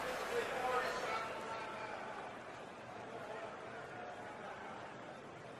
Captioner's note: stadium announcements